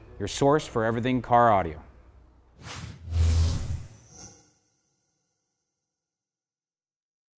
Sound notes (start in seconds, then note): 2.7 zapping